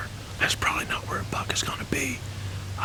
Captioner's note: whispering